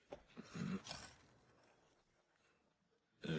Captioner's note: hắng giọng